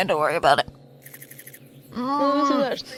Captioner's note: spiders Scuttling